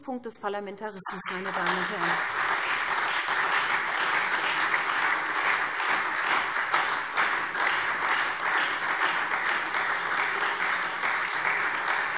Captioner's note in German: Anhaltender Beifall SPD und Freie Demokraten